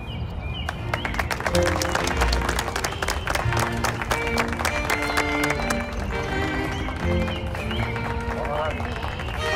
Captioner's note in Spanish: Aplausos